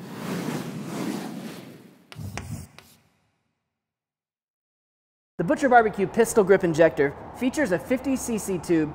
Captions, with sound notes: (chalk on chalkboard) The Butcher BBQ Pistol Grip Injector feautures a 50CC tube